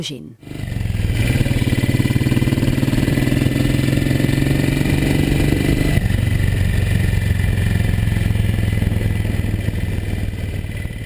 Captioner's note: motorcycle engine